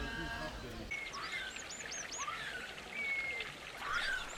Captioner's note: birds chirping